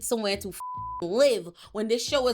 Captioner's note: beep